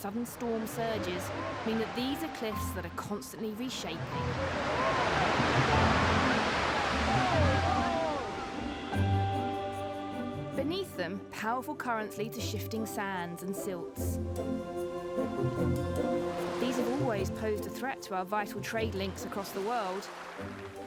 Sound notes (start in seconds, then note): 8.4 waves sloshing